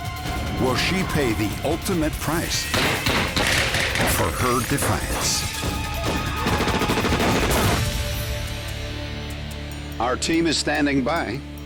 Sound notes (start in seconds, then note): 2.7 gunfire